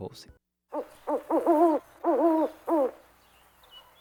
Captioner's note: owls hooting